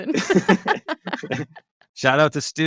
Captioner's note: both laugh